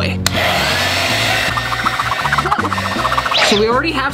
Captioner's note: hair dryer blows